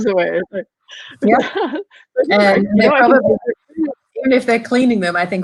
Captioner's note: laughing